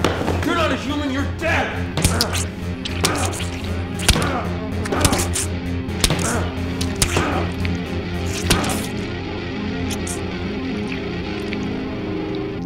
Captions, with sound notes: You're not a human, you're dead. (flesh squishing) (Max groaning) (blood dripping)